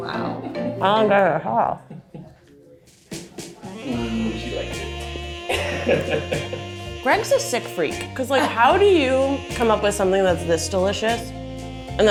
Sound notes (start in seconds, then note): 3.9 soft jazz music; 5.4 chuckles